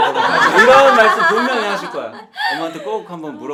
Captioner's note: laughing at the old-school reference